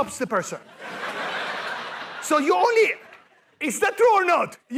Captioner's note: laughter